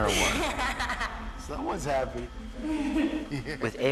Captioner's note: robbie laughs